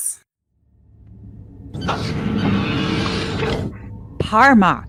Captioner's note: office doors close